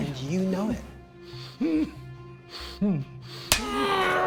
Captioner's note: groaning